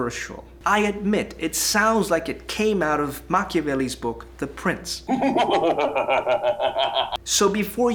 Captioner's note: evil laughter